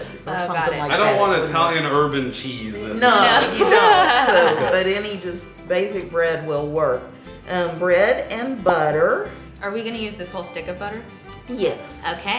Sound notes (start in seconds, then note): 4.6 laughing